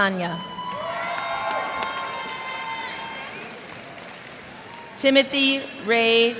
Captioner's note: cheers and applause